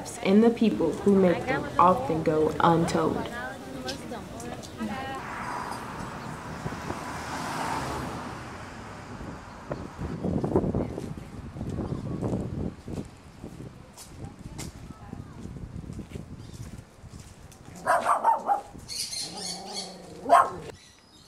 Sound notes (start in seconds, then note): 3.9 people talking; 5.4 cars passing; 9.6 wind; 17.7 dog barking, birds chirping